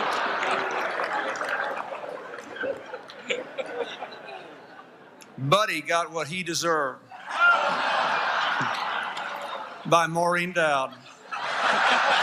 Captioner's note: laughter